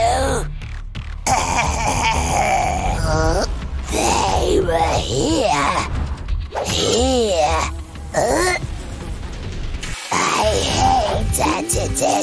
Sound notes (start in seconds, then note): 3.8 groans